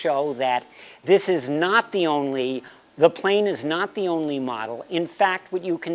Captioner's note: none